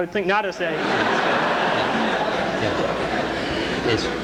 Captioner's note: laughter